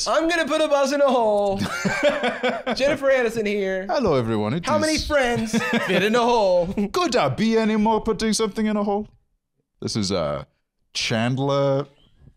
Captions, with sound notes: "I'M GONNA PUT A BUS IN A HOLE!" - (laughing) - "JENNIFER ANISTON HERE!" - (Nigerian accent) "Hello, everyone." - "HOW MANY FRIENDS FIT IN A HOLE?" "Could I be any more putting something in a hole?" This is, uh, Chandler,